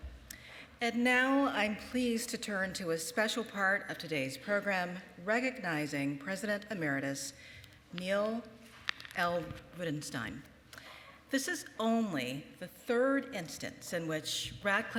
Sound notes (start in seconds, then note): none